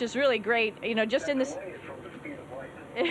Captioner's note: faint echo of Nye speaking; laughs